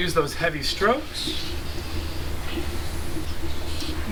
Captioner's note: none